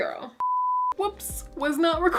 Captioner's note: beep